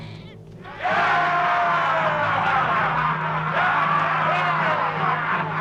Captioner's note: dramatic music; chieftains cheering